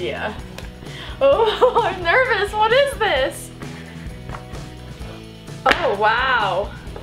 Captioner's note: laughs